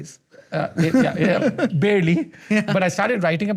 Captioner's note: Nikhil laughs